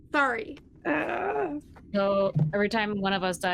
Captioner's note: groaning